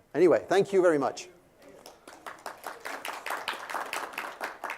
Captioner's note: applause